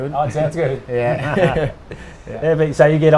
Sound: chuckles

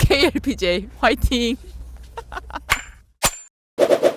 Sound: bursts into laughter from the awkwardness

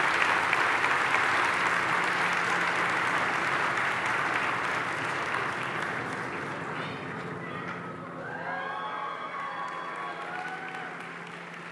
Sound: cheers and applause

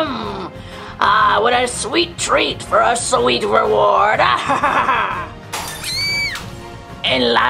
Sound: laughs

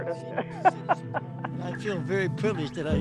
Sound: laughing

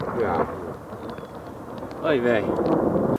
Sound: thunder rumbling

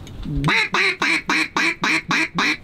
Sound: duck calling

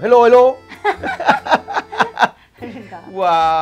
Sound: both laughing

